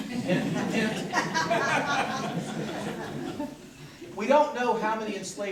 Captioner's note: corporate laughter